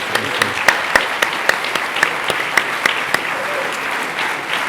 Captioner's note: applause